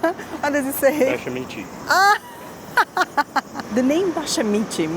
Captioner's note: laughs